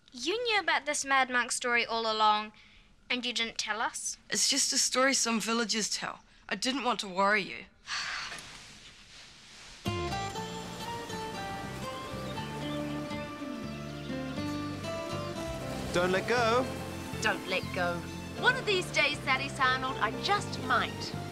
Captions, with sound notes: - You knew about this mad monk story all along and you didn't tell us? - It's just a story some villagers tell. I didn't want to worry you. (sighs) (pleasant music) - Don't let go. - Don't let go. One of these days Thaddeus Arnold, I just might.